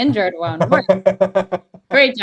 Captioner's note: laughing